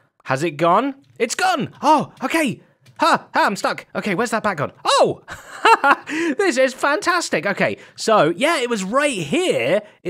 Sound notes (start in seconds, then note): 5.2 laughs